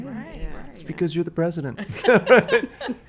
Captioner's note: laughs